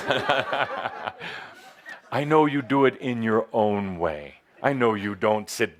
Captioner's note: Adamus chuckles